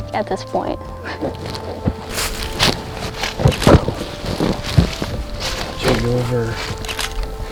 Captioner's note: sound of walking, soft music